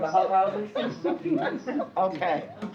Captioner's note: laughs